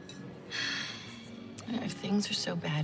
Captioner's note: sighs